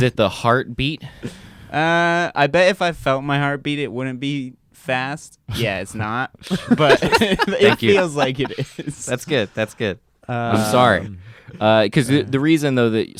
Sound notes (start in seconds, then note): 6.5 chuckles; 6.5 laugh loudly; 6.5 laughs